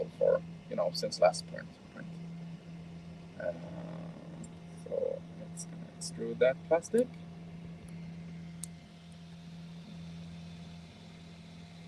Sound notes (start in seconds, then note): 7.3 printer whirring